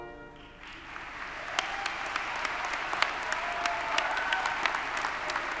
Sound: audience applauding

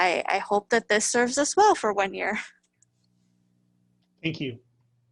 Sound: chuckles

